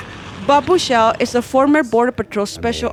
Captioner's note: voiceover